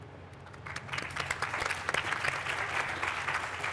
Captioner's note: applause